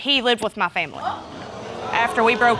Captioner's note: audience exclaiming